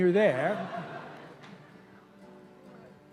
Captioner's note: laughter